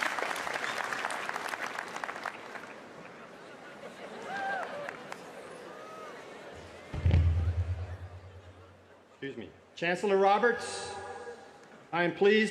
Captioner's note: applause